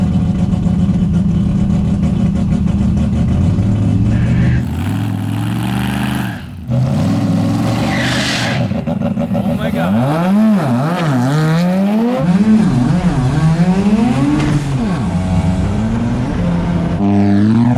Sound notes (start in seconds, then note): 5.9 engine revving; 5.9 tires screeching; 10.5 engine roaring